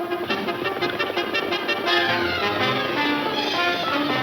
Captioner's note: horses galloping